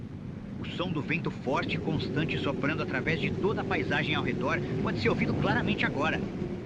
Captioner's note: wind blowing